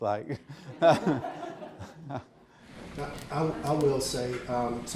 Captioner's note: audience laughing